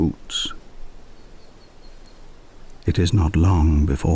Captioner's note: wind and birdsong